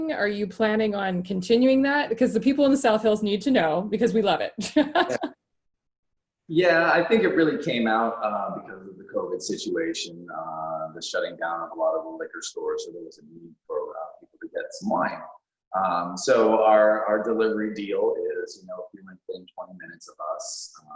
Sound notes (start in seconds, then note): 4.8 laughing